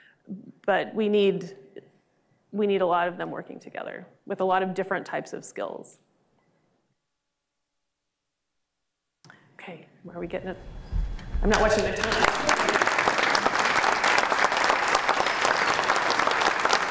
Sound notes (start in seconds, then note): 10.6 audience applauding